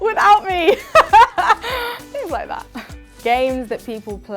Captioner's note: laughs